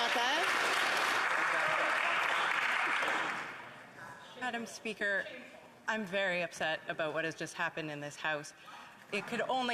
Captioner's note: some Applause